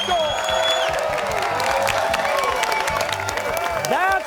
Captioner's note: cheers and applause